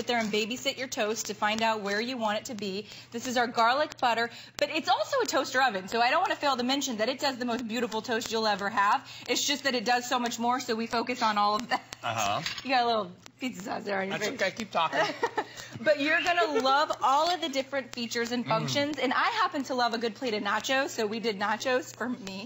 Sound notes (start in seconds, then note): 14.9 laughter